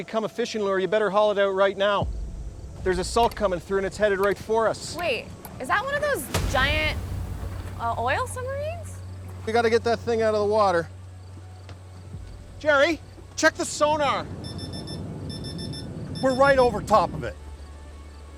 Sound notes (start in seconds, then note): 14.3 beeping